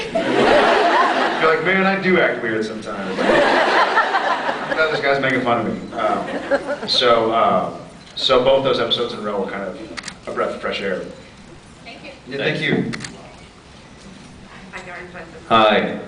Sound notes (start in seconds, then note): 0.0 laughs; 3.2 laughs; 6.3 scattered laughs